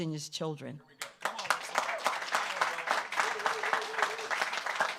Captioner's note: audience applauds